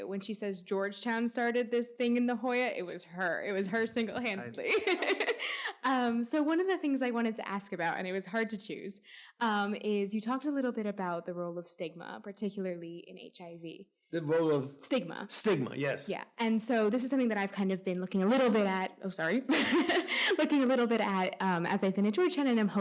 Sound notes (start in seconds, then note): 4.6 laughs; 19.6 laughs